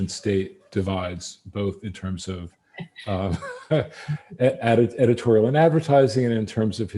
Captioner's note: laughs